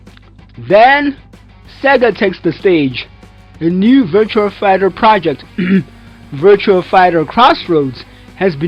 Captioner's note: ahem